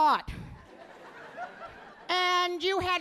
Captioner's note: audience laughing